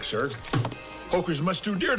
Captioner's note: deck thumps